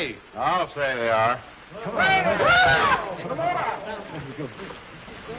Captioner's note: all chattering